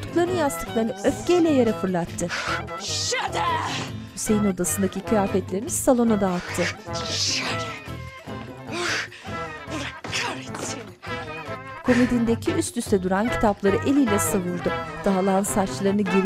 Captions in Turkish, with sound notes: Seni... (Almanca konuşma) (Almanca konuşma) Ah! Allah kahretsin! (Müzik - Hareketli)